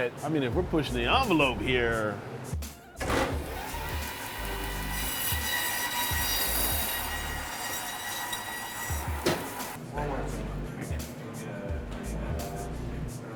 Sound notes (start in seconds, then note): 3.0 saw turning on; 5.1 high pitched buzzing; 10.3 dramatic music